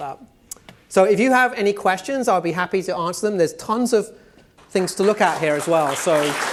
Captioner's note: applause